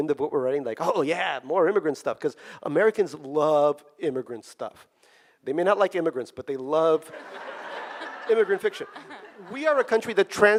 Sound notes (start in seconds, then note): 7.0 audience laughing